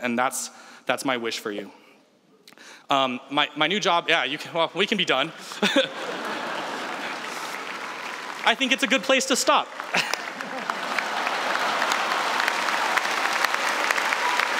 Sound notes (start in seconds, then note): 5.4 laughs; 9.9 laughter; 12.0 applause